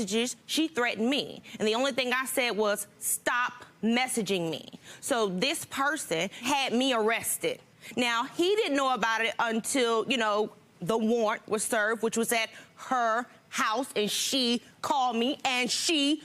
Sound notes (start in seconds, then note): none